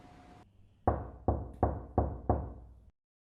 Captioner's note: knock at door